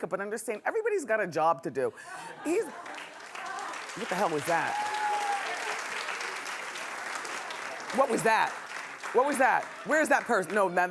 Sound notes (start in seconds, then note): 3.3 clapping